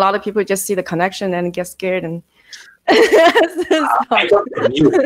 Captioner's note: laughing